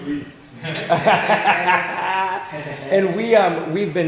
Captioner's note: everybody laughing